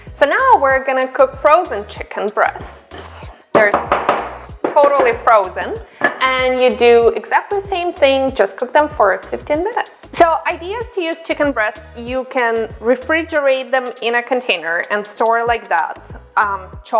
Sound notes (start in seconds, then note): 3.5 banging